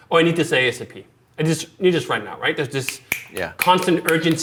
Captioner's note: fingers snapping